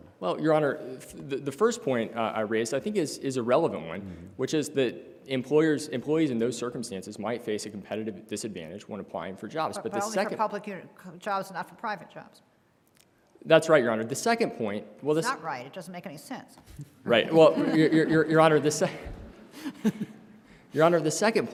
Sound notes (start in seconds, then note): 17.2 laughter